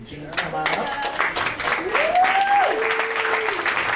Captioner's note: applause